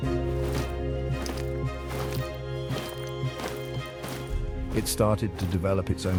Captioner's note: metallic footsteps clanking